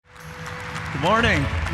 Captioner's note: audience applauding